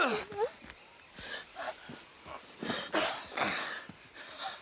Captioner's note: crying